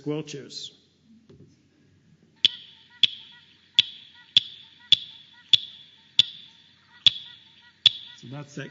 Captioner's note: sound of frog calls